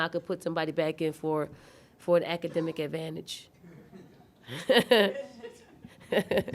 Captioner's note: laughing